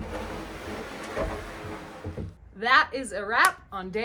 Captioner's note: wood sliding